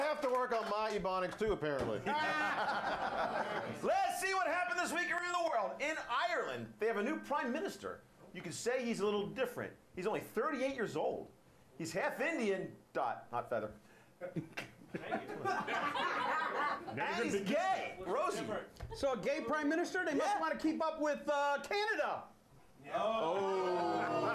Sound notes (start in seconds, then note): 2.0 laughter; 14.3 laughter